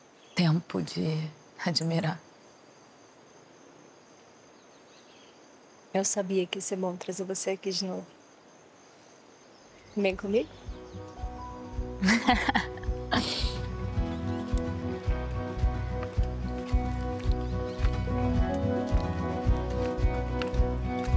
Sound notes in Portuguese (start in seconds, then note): 12.0 risos